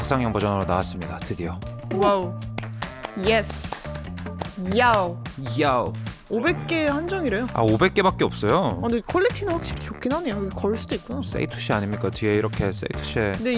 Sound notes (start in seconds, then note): 2.5 excited sound about the mirror's release